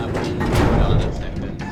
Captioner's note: particularly loud elevator noise